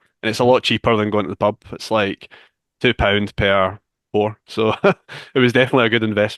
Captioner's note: chuckles